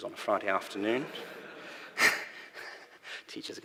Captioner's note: laughter